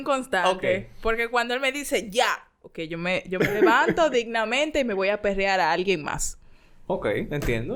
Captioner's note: laughs; laughs